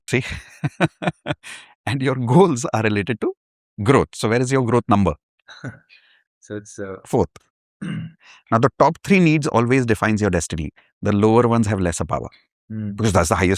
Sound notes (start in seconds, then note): 0.2 laughter; 7.8 clears throat